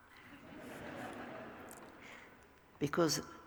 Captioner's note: laughter